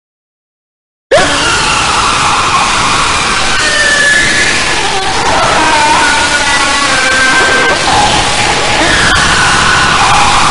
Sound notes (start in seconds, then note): 1.1 screaming